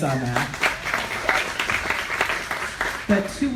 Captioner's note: applause